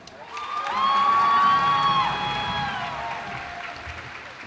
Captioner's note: cheers and applause